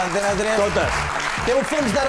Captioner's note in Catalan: aplaudiments